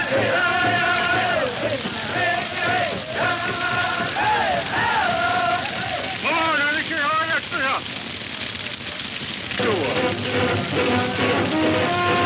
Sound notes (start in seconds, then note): 5.7 man speaking in foreign language; 9.6 dramatic music